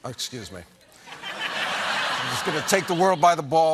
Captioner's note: laughter